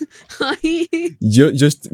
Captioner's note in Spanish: risas